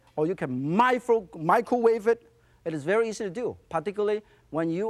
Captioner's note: none